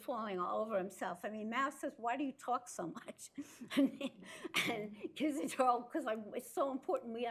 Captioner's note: laughs